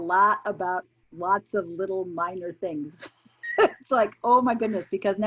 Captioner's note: laughing